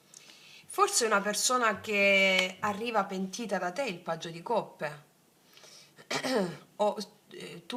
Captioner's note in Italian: schiarire la voce